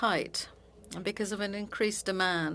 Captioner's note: speaking French